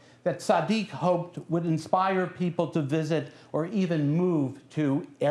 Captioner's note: non-english speech